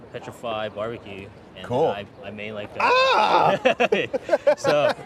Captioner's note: laughing